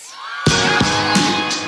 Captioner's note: upbeat music; cheering